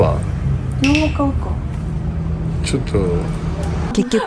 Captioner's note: laughs